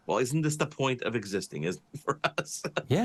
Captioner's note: laughing